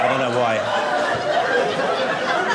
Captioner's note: audience laughing